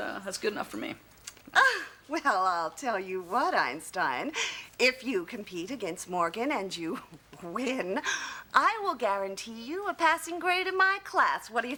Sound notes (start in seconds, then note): 1.7 scoffs